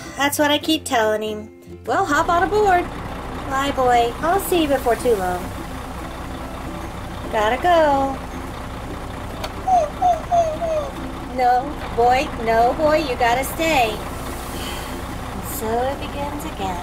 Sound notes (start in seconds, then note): 9.5 dog whining; 14.5 sighing